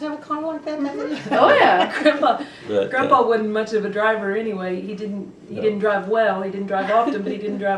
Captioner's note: laughter